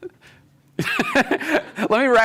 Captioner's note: laughs